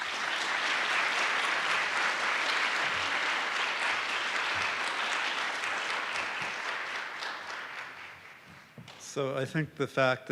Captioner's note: applause